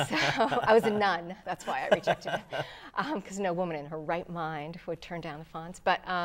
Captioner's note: laughing